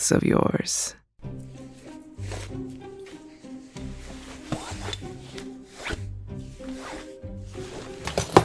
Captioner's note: clothes being removed; dresser being bumped